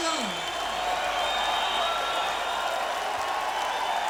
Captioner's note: cheering